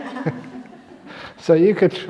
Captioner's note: laughs